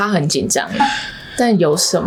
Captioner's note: gasping